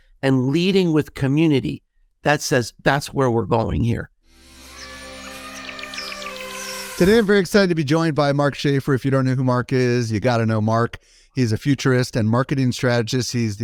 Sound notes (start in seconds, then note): 4.4 rock music; 4.5 elephant trumpeting